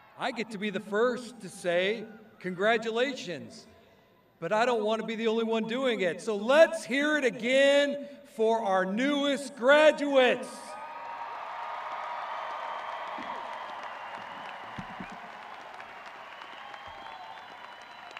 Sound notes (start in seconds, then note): 10.6 crowd cheering